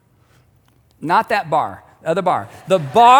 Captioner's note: audience laughing